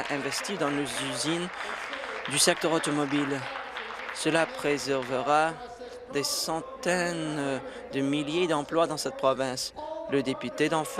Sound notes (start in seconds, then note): 4.5 applause